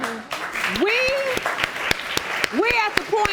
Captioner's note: crowd applauding